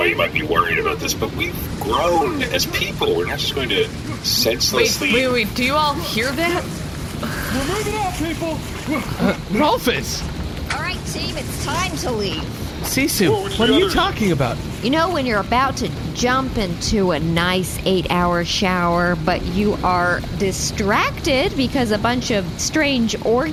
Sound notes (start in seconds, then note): 7.8 shouting